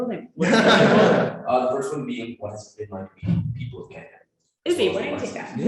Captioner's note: laughing